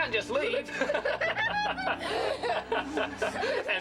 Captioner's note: all laughing